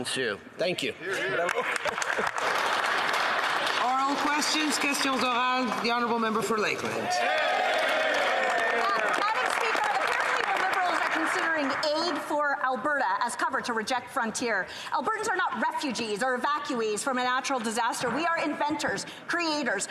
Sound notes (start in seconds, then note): 4.8 some Applause; 10.6 speaking French